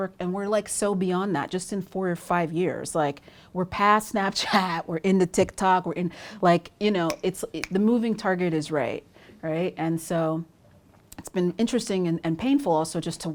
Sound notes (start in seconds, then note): 7.6 snapping fingers